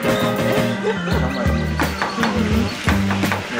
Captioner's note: laughter